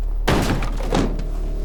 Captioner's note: door busts open